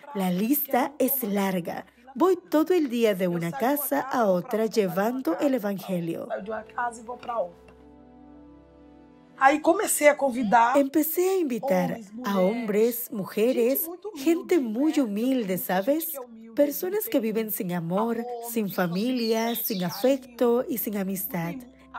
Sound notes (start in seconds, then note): 9.5 Hablando otro idioma